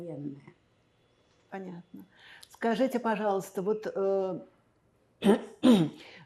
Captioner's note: clears throat